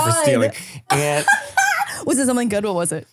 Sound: laughing

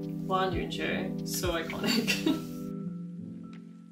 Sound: laughs

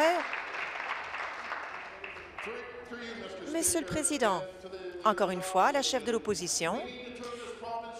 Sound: applause

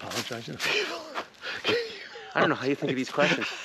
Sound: Kevin laughs

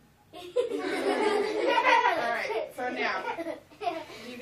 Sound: students laughing

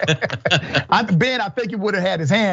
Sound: laugh

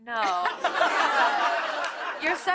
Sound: laughter

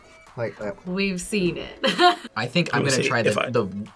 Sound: laughs

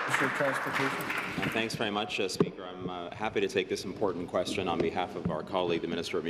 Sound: applause

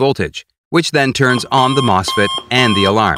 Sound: alarm beeping

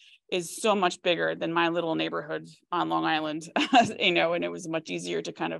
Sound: laughs

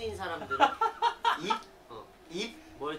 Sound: laughing

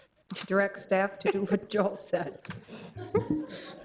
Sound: chuckling

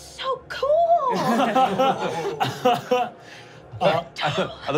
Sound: laughing

